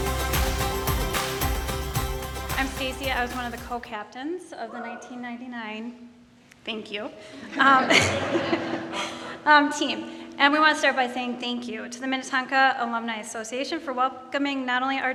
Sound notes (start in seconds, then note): 7.5 audience laughing